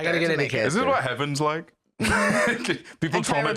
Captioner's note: laughs